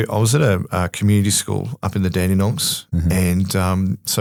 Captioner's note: none